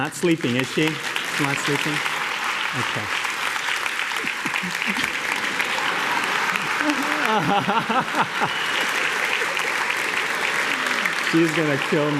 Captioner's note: applause; laughter